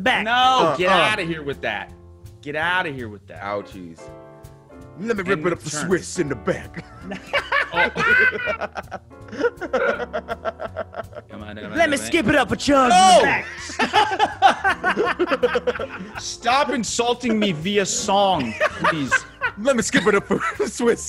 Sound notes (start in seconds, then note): 9.2 laugh